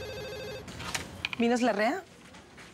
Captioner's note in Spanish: suena el teléfono